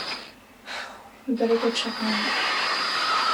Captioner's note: sighs; static crackles